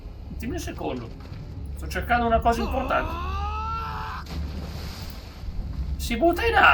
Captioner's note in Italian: urlo